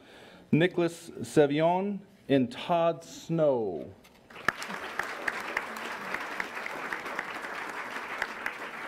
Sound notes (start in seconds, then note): 4.3 applause